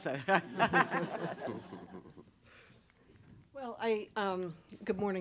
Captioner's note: laughter